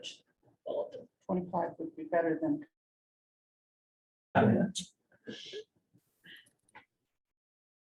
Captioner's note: audio dropping